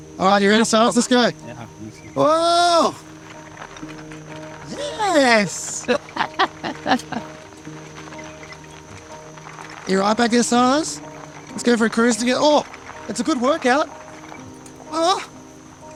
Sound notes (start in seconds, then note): 0.0 people laughing; 6.6 people chuckling